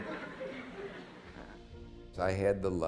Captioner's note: laughter